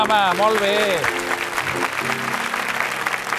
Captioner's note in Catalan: aplaudiments